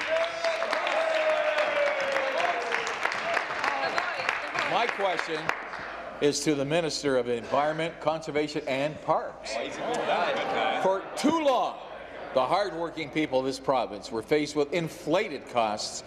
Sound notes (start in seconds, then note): 0.0 applause; 5.0 applause; 5.4 cheers